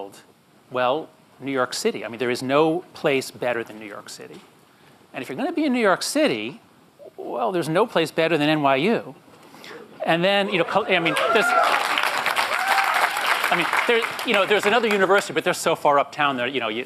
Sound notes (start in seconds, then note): 11.0 applause